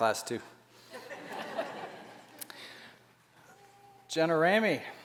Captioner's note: laughter